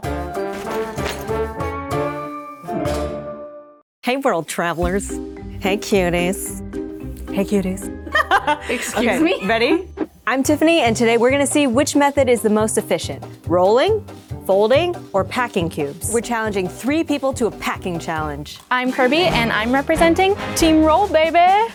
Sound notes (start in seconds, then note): 0.0 upbeat music; 8.1 laughs